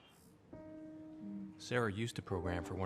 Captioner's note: narrating